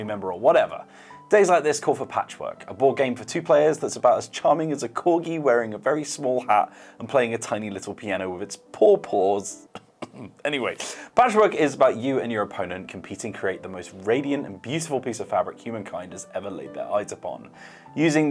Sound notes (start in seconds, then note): 9.7 coughs